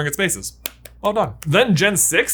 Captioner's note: claps hands